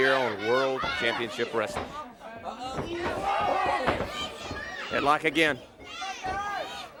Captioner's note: crowd chatter